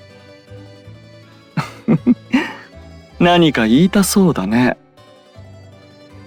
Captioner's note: laugh